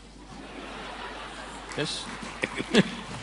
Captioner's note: laughter